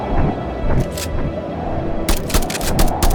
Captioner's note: gun blasting; gun clicks